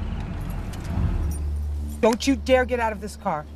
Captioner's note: chirping of crickets; stopping of engine